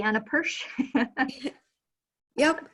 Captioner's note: chuckling